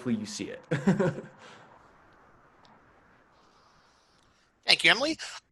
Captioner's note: laughs